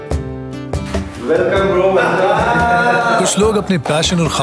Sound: laughs

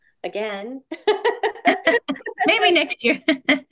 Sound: person laughing

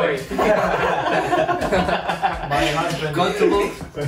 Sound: laughter

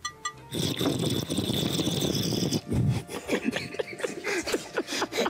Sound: Trevante gurgling

